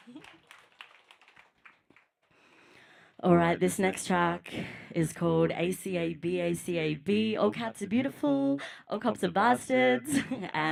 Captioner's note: applause